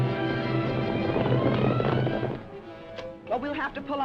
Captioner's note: dramatic music; horse hooves clopping; dramatic music